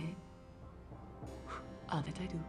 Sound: blows

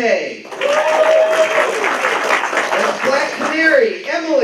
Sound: applause

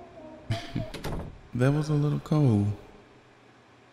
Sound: chuckles

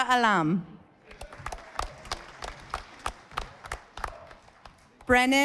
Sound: audience applauding

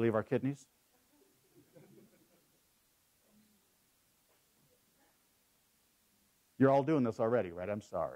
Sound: laugh

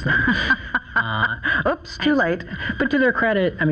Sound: laughs

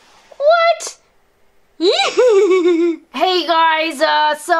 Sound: laughs

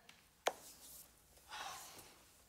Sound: sighing

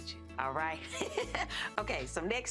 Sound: laughs

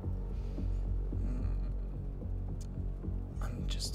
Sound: man groans

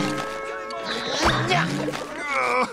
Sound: grunting

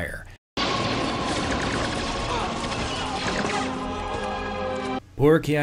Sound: blaster fire amid sad music and Ki-Adi-Mundi dying

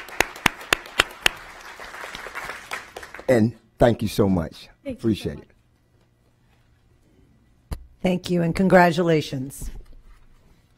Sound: applause

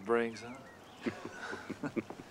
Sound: men chuckling

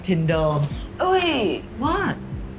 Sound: gasps

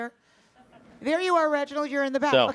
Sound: audience laughs

